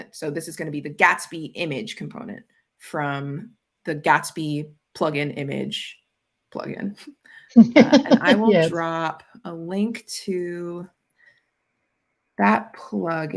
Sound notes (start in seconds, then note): 7.6 laughing